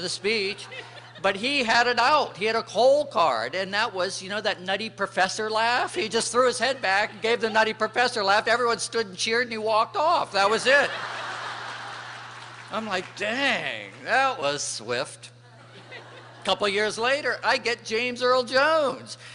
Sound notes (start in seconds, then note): 10.4 laughter